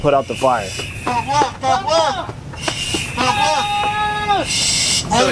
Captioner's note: men shouting